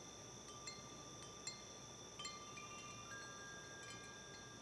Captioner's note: wind chimes